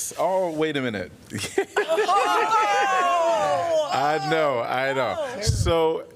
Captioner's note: laughter